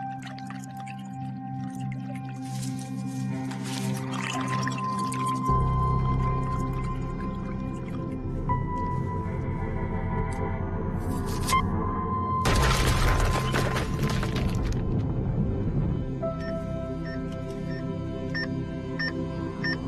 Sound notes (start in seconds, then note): 6.1 liquid bubbling; 14.6 thud